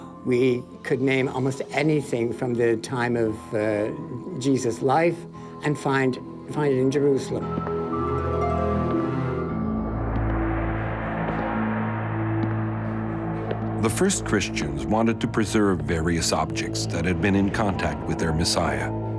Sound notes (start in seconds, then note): 7.9 slow music; 10.5 footsteps echo